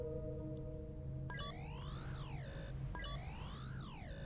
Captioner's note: buzzing chime